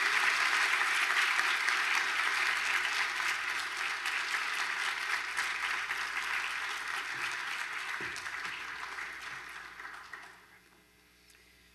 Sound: applause

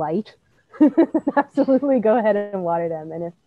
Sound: laughs

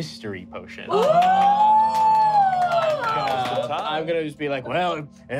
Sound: clapping and cheering

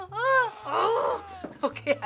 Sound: whimpering anxiously; man screaming

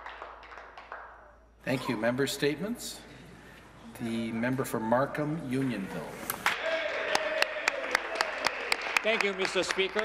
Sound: some Applause

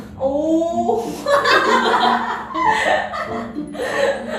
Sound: laughs

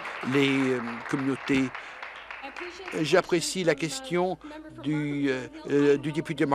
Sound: applause

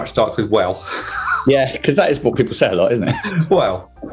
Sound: laughs

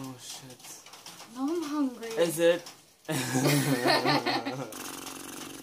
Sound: laughs

